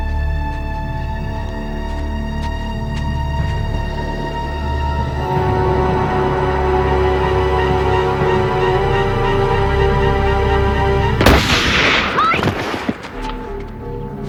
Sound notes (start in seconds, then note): 11.2 gun fires